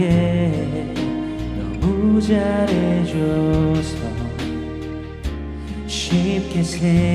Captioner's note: joins in humming